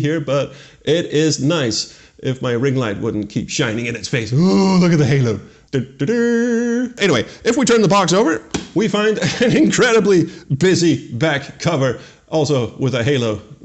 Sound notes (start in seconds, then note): 5.5 mock dramatic humming